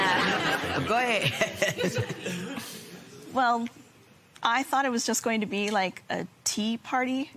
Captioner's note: laughs